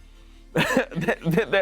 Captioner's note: chuckles